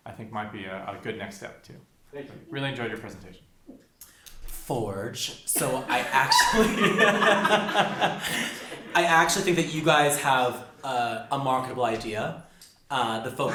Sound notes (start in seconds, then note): 5.6 laughs